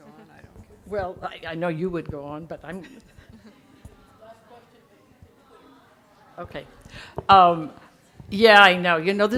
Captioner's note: audience chattering